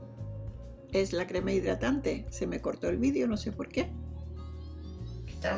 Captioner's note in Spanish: Voz en off